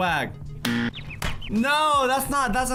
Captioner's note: buzzer sound